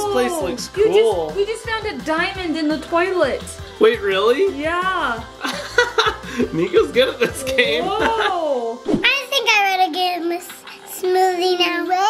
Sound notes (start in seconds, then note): 5.4 dad laughing